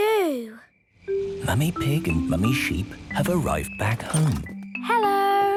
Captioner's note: whispering